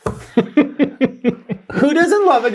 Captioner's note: guy laughs